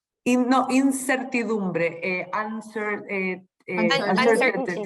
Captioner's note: speaking spanish